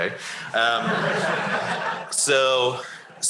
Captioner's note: laughter